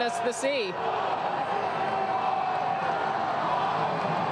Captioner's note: applause